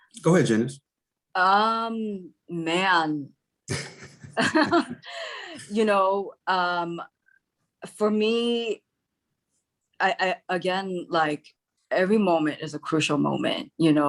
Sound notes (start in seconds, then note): 3.7 all laugh